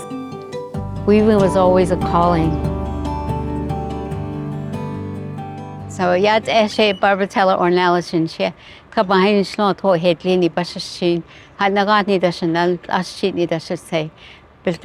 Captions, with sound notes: Weaving was always a calling. [Speaking Navajo language]